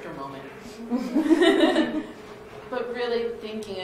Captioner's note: laughter